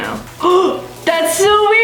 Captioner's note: gasps